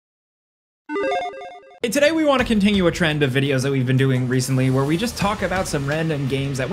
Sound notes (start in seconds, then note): 0.9 electronic chiming